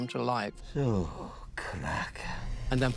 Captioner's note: speaking alien language